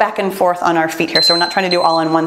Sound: timer beeps

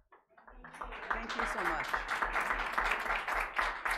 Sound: applauding

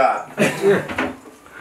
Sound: laughter

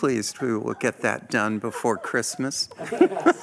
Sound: laughter

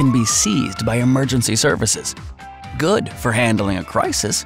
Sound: police Sirens

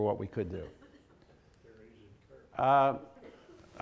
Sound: laughter

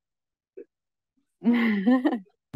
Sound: laughs

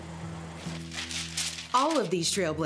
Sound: papers rustling

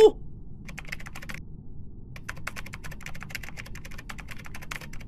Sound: keyboard sounds

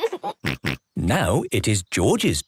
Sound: laughs

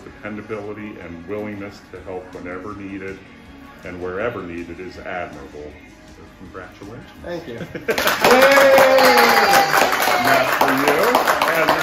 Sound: cheering

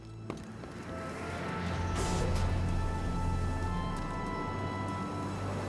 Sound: wind howling

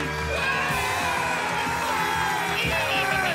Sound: cheering and applause; guys cheering and mom burping

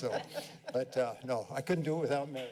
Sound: laughter

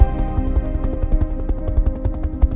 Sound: helicopter

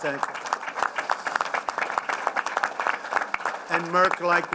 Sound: applause

